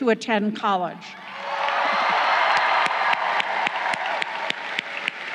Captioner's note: crowd cheering